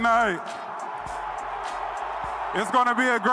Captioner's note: crowd booing